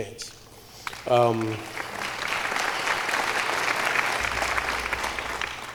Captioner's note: applause